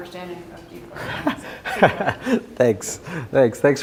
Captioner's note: laughs